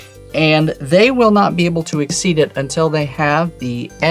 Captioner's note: none